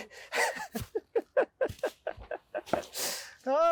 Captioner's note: laughing